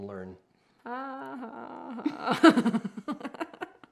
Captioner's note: chuckles